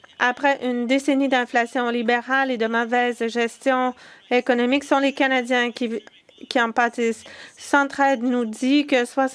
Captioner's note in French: voix de l'interprète